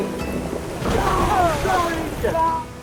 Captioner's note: shouting